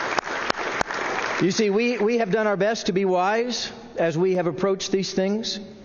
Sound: applause

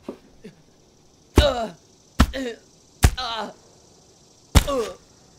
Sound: donovan grunting as he's punched

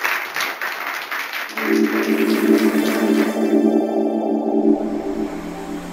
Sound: applause

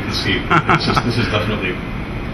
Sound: laughs

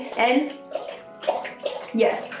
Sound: dog lapping water

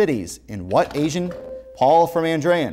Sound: beeping

